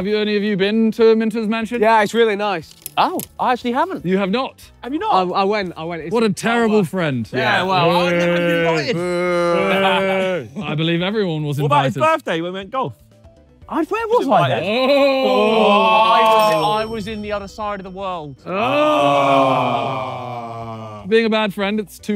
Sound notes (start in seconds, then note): 14.7 all jeering; 18.5 all ohing